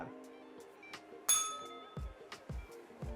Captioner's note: bell rings